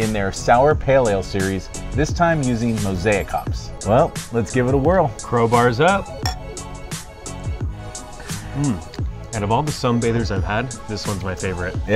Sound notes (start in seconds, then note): 6.2 glasses clink